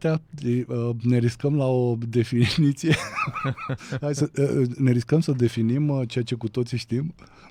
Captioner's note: laughter